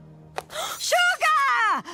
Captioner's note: gasp